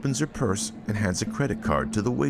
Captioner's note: patrons chatting